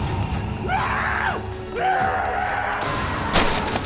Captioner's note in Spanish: música dramática; Rogers gritando